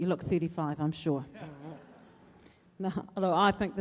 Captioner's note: loud laughter